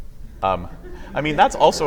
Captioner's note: laughter